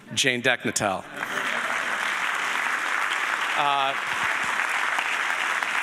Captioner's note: audience applauding